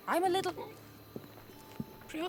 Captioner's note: burp